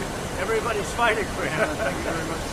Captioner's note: laughter